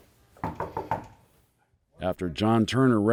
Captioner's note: knocks